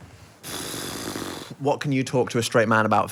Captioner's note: exhales